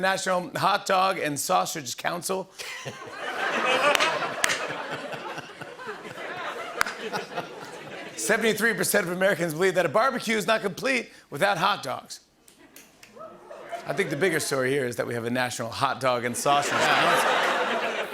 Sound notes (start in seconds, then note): 2.6 laughter; 16.5 laughter